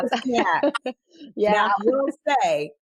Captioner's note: laughs